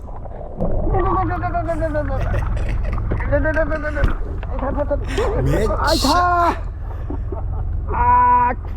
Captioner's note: haha